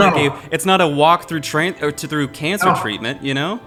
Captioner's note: stammering